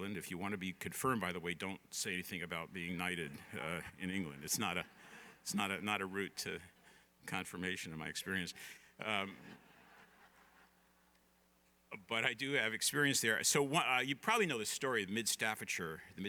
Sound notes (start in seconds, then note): 4.5 laughter; 11.2 laughter